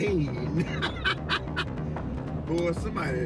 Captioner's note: man laughing